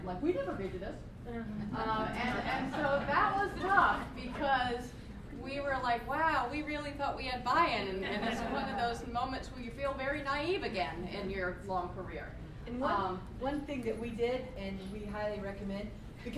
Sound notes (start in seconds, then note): 2.1 laughter